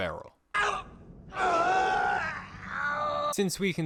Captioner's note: Roger grunting & shouting in pain